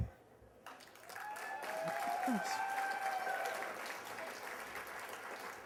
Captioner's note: applause